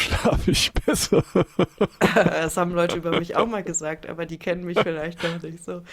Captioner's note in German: gelächter